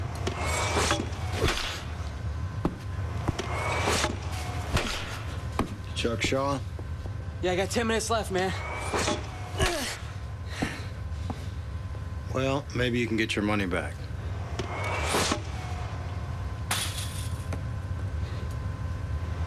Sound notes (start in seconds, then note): 0.7 machine whines; 15.5 machine whines; 17.6 ball hits fence; 19.2 machine whines